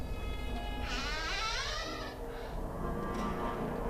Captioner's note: door creaking; gentle tense music